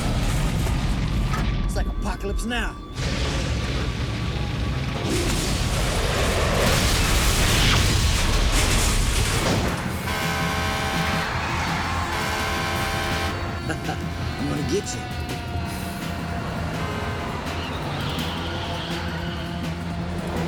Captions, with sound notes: It's like "Apocalypse Now." (cars crash) (truck horn honks) I'm gonna get ya. (car horns honk)